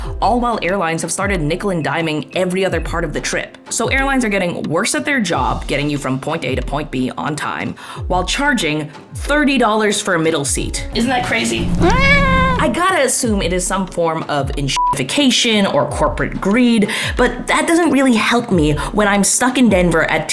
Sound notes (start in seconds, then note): 11.6 cat meows; 14.7 beep